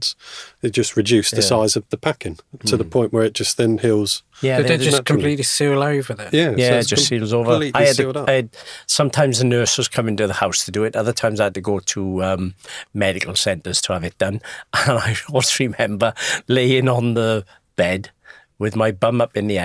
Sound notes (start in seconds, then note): none